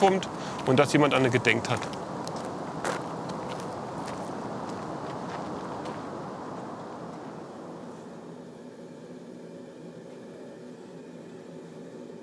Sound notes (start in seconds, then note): 7.1 flame hisses